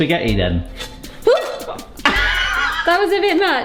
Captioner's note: laughing